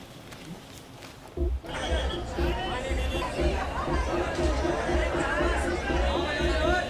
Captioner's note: overlapping chatter